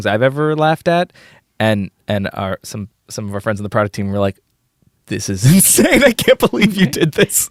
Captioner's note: laughs